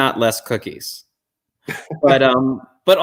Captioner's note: chuckle